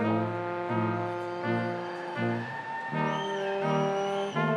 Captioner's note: upbeat orchestral music continues; crowd cheering